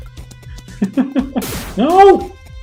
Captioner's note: laughs